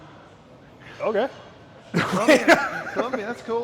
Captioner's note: laughs